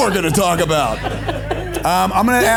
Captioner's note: audience laughs